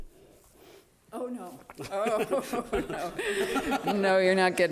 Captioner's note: all laughing